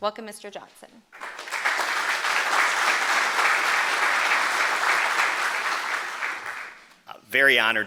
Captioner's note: applause